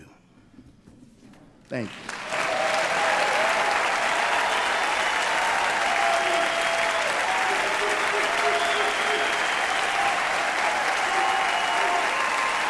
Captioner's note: applause and cheers